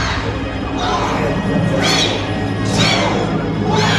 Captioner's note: crowd